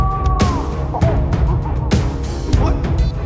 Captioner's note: pyro happy noises